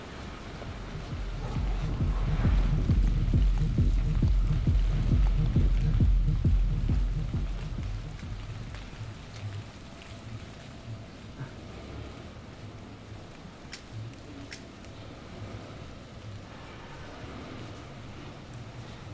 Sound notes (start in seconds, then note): 0.3 techno music pumping; 7.4 music fades; 13.6 lighter flicking